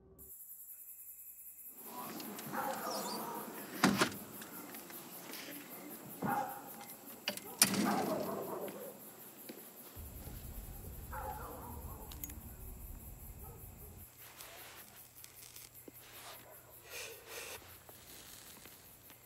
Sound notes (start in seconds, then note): 0.3 crickets chirping; 6.1 distant dog barking